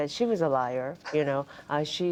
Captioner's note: laughter